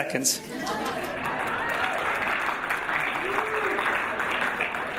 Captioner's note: audience applauding